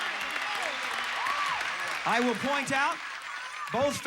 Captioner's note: audience applauding